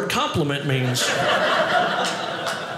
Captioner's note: audience laughing